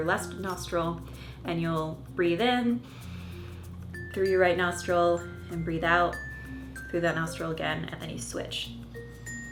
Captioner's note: breath